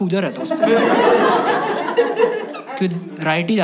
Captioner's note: laughs